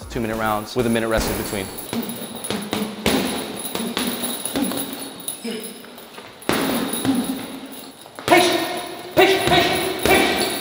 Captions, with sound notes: Two minute rounds, with a minute rest in between. (punching bag sounds) (boxing sounds)